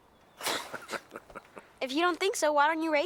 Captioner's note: Heep laughing